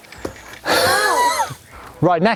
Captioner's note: laughing